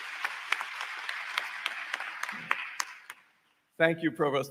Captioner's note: applause